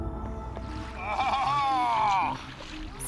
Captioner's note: excited shout